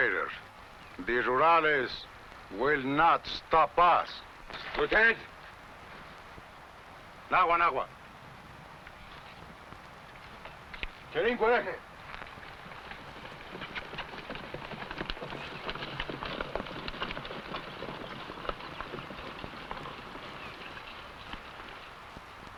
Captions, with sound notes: The Rurales will not stop us. - Lieutenant! (speaking foreign language) (horse hooves pattering)